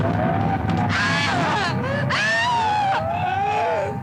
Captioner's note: Cleo screaming